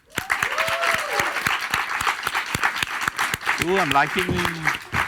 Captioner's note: audience applauds and cheers